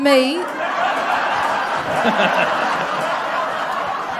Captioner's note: laughs/Applause